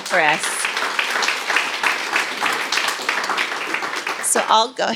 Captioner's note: applause